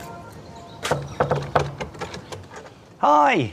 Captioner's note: knocking on door